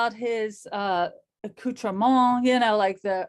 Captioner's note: speaks foreign language